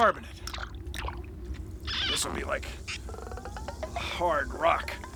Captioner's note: squeaking